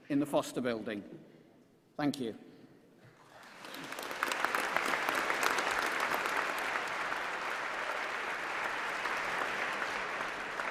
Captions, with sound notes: s and you'll be able to rejoin your graduate in the foster building. Thank you. [ Applause ]